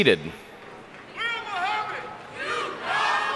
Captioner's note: man shouting in crowd